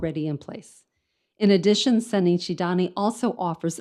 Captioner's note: speaks in foreign language